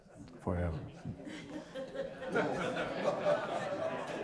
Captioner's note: audience Laughter